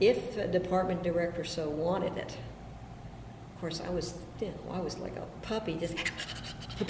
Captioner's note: imitates panting